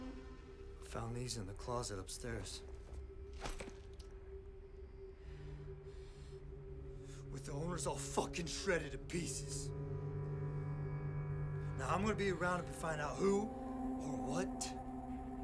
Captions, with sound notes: I found these in the closet upstairs. (rustling) With the owners all shredded to pieces. Now, I'm gonna be around and find out who or what.